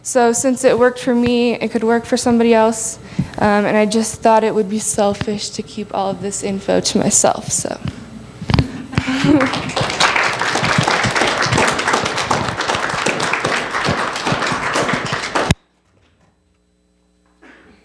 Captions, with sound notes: So since it worked for me, it could work for somebody else, um and I just thought it would be selfish to keep all of this info to myself so (applause) (Microphone cuts out)